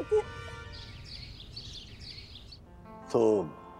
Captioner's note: birds chirping